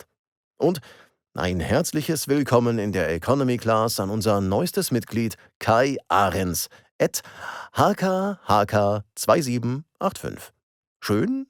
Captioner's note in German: japst